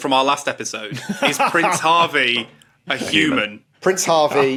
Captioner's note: laughs